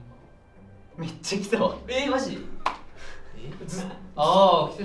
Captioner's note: laughs